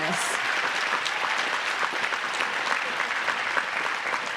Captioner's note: applause